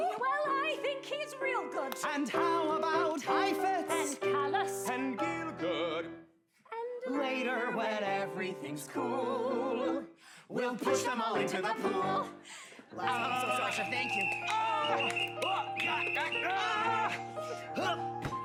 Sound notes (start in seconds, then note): 13.0 whistle blowing; 15.4 grunting; 15.9 frank and charley yell